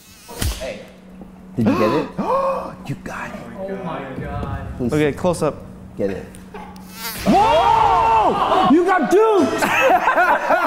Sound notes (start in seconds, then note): 0.4 smack; 1.6 gasping; 6.7 fly buzzes off; 9.5 laughter